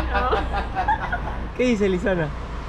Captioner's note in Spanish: Risas